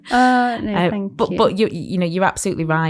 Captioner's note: laughs